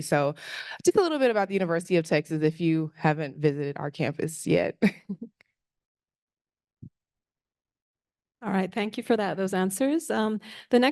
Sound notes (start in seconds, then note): 5.9 laughs